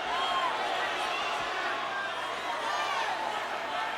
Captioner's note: audience cheers